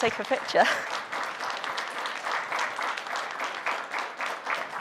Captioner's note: audience applauds